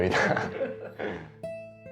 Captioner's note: laugher; slow music